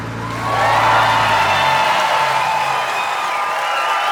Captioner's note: cheering and applause